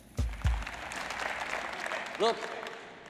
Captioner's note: audience applauds